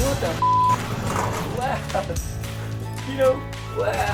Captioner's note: beep; laughing